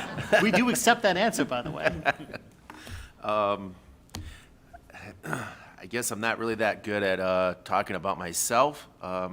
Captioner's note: laughter